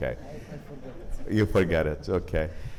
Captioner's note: audience chuckles